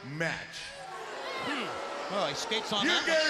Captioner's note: crowd boos